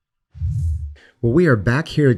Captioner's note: air whooshes